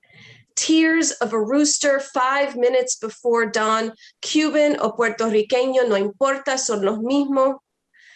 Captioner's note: foreign language